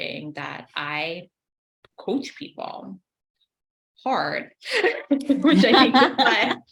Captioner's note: laughs